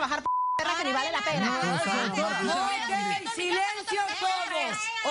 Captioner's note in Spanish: Bip